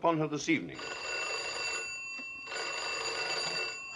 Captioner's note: phone rings